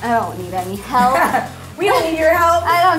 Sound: laughing

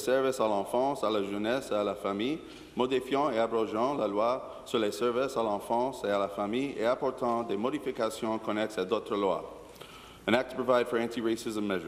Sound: speaking in French

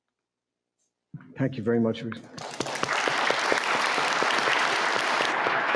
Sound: audience clapping

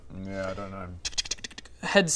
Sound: tch-kch-tch-kch-chk

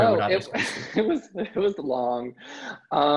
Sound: laughs

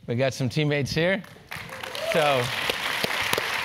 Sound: applause

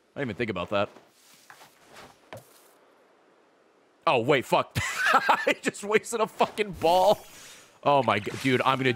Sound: laughs

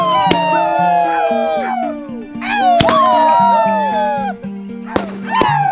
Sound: bursting sound; shouting with joy

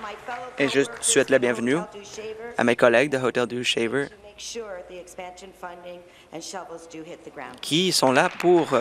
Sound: applause

